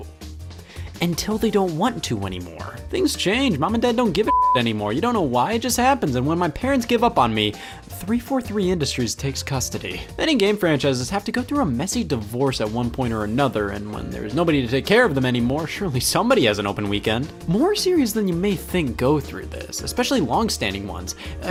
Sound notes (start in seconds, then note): 4.2 beep